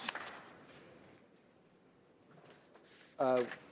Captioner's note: applause